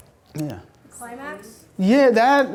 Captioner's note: voiceover